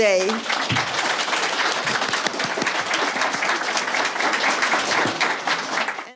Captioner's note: clapping